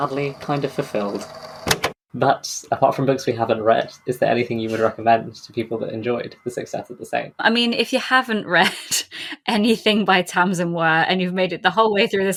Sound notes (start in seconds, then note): 1.6 tape recorder clicks off; 9.2 laughs